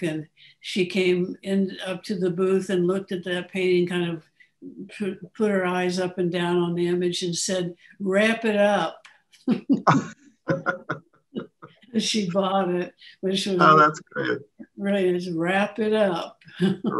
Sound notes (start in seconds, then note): 8.9 laughter